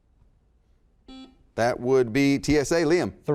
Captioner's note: beep